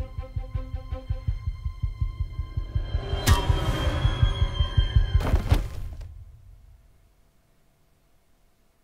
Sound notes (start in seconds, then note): 0.0 tense instrumental music; 3.1 metallic thunk; 5.2 Tony thuds